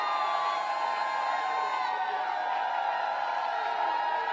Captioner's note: applause